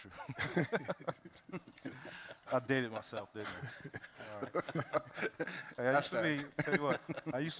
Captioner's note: laughter